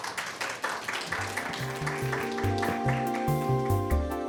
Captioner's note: audience clapping